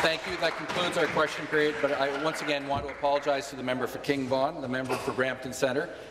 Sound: applause

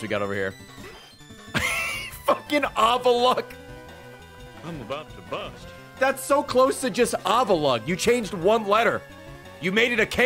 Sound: laughs

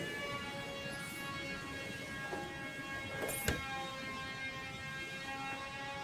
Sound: background buzzing sound

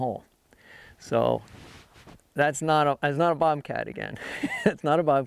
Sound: laughs

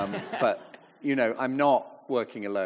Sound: audience chuckling

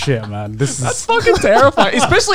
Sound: laughing

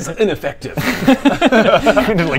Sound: mindless laughter

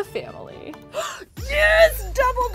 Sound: gasps

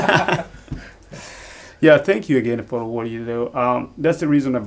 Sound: all laugh

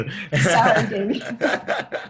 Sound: laughs

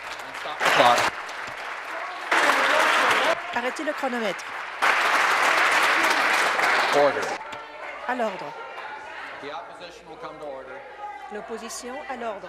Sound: applause

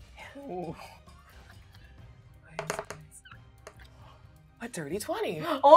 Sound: speaker speaks in a low tone

